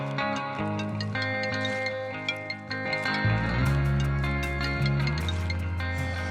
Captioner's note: phone ringing